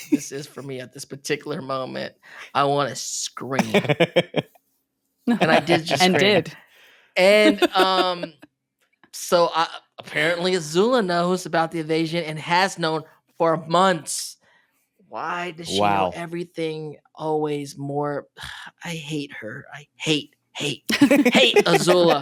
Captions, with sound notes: for me at this particular moment? I want to scream. [laughs] And I did just scream. And, so, apparently Azula knows about the invasion and has known for months. Why does she know everything? Always more. I hate her, I hate, hate, hate Azula.